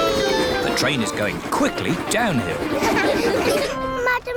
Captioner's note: laughter